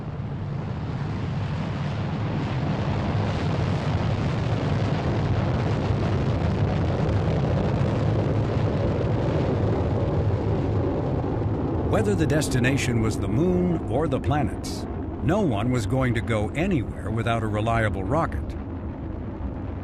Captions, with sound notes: [rocket engines roaring] Whether the destination was the Moon or the planets, no one was going to go anywhere without a reliable roc.